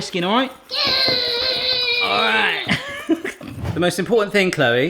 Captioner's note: grunts